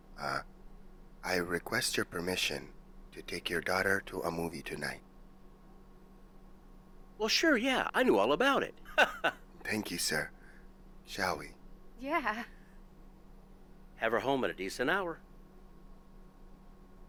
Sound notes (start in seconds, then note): 8.9 laughs